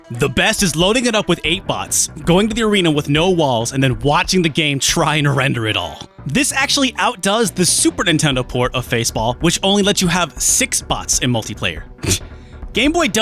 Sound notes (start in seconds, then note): 12.0 scoffs